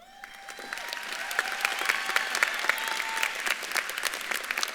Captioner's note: audience claps and cheers